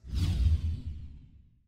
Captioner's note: whoosh